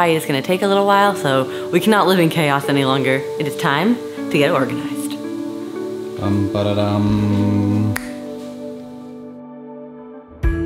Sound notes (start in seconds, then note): 5.6 humming a marching tune; 7.9 fingers snapping